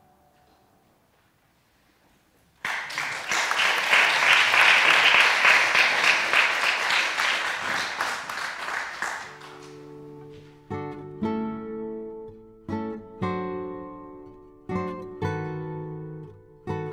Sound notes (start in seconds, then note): 2.6 applause